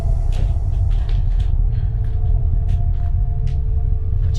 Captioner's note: floor creaking